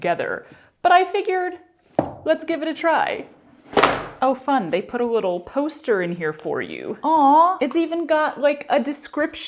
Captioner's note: clunk